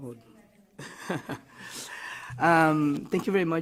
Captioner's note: person laughing